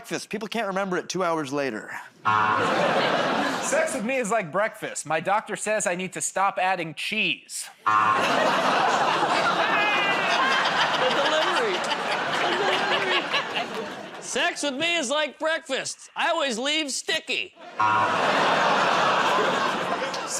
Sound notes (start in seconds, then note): 2.2 buzzer; 7.8 buzzer; 8.2 laughs; 17.8 buzzer